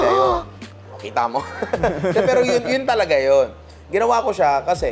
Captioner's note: laughs